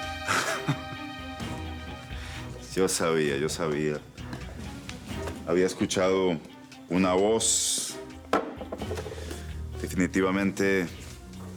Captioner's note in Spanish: Él ríe